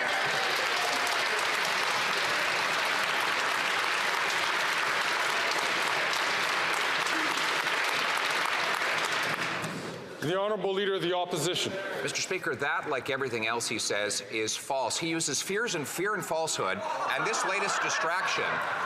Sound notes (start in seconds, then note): 6.6 some Applause